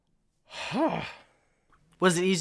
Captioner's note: sighs deeply